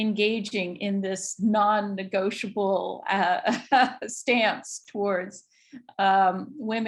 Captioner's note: chuckles